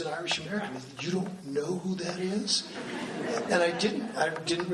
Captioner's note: laughing